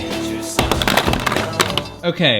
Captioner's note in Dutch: gekletter